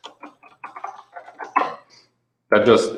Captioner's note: keyboard clattering